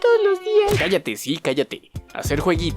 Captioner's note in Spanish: sonido de golpe